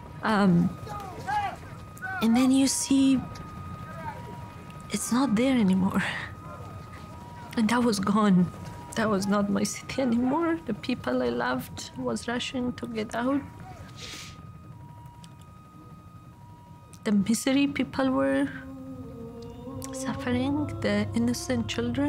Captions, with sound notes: [crowd yelling] And then you see it's not there any more. And that was gone. That was not my city any more. The people I loved was rushing to get out. [sniffs] [sirens wailing] The misery people were suffering, the innocent children.